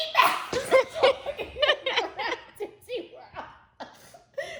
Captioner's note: both laugh